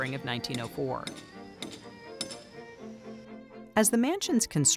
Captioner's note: tools clanking and whirring